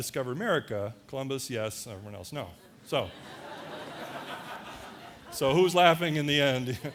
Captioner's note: audience laughter